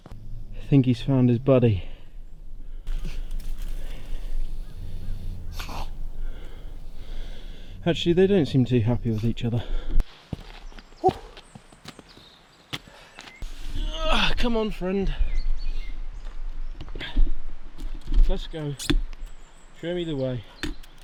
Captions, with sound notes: I think he's found his buddy. *snarls* Actually, they don't seem too happy with each other. Come on, friend. Let's go. Show me the way.